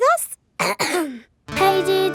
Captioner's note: clears throat